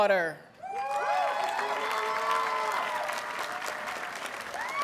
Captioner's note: audience cheers and applauds